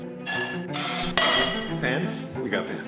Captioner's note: pans clanking